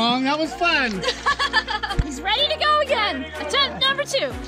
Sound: laughing

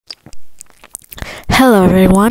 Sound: spawns out of nowhere cutely and inhales air

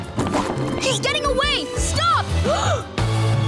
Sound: gasping

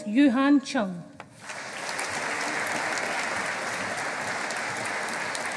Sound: audience applauding

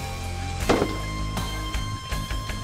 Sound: gunshot

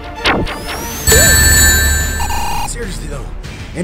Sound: dramatic synthesizer music; sonic whirring; bell dinging

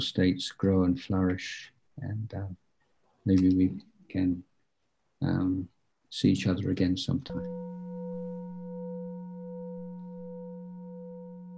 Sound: sound of a gong ringing and fading

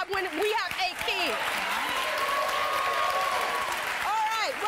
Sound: audience applauding

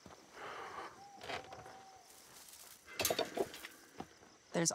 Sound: bird calling

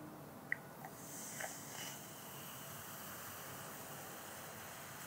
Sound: vinegar sizzling

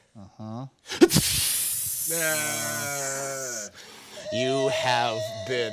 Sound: hissing

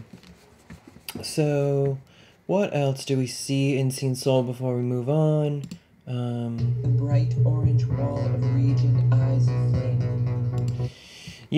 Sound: game audio

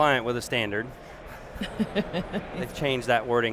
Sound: laughing

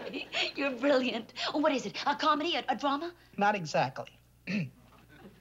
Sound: clears throat

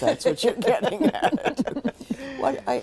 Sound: laughter

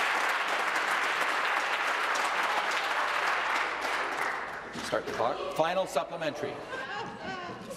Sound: applause

